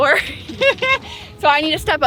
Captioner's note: laughs